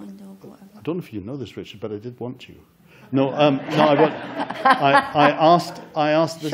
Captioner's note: laughter